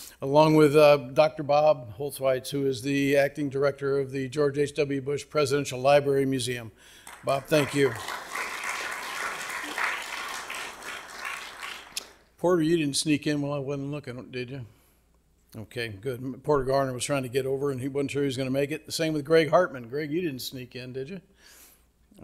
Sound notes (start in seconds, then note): 7.0 audience clapping